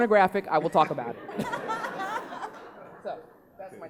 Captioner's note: laughing